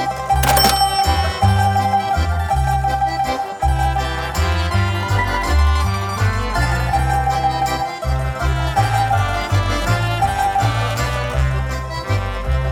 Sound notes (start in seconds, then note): 0.3 register dings; 2.1 calm accordion music